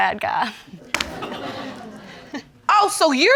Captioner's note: audience laughing